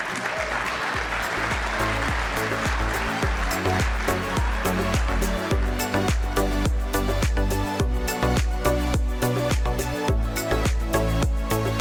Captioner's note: applause